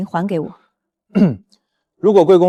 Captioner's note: cough